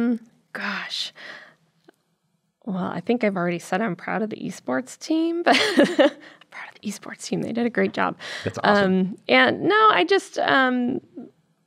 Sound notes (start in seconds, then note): 5.4 laughs